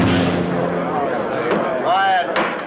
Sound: crowd chatting

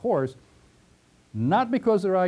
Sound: pause

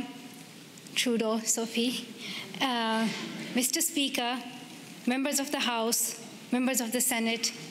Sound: speaking pashtun

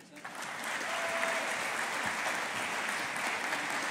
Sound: audience applauding

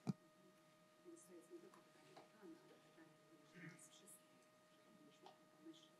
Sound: foreign language

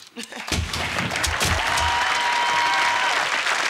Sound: crowd cheering

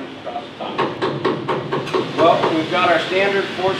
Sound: hammer pounding

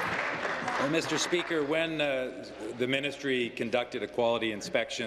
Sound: applause

